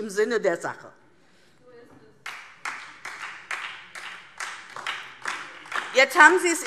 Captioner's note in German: Beifall DIE LINKE und SPD